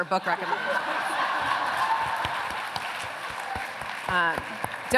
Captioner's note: laughter